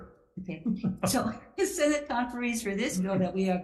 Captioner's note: laughs